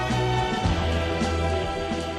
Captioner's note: bell